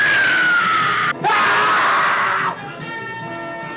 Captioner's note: screams; dramatic instrumental music